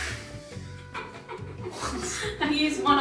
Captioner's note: both laughs